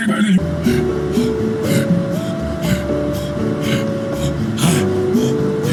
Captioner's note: more Mark random noises and grunts to elevator music playing